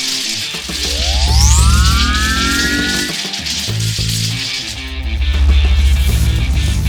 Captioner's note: electricity crackling; force field whirring